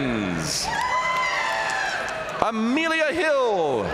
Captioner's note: audience cheering and applauding